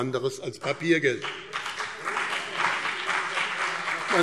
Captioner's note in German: Beifall